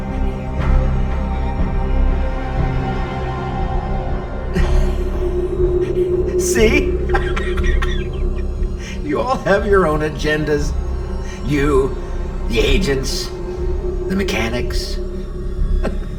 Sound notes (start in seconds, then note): 0.2 tense dramatic music; 4.5 Torrez laughs; 7.4 laughs